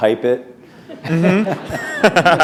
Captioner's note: laughter